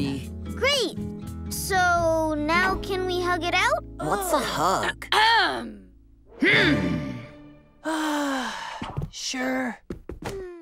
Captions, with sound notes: Great. So, now can we hug it out? What's a hug? [clearing throat] Mmm. [sighing] Sure.